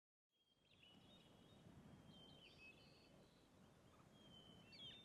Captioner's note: birds chirping